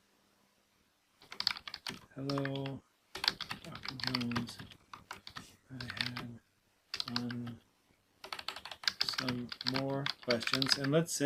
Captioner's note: typing